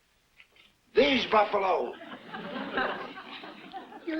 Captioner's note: audience laughs